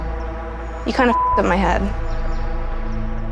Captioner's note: beep